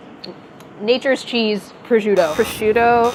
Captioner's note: buzzing